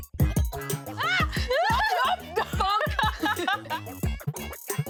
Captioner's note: laughs